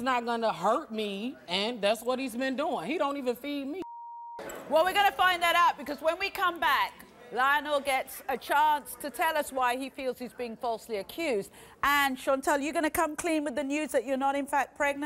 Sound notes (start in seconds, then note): 3.8 beeping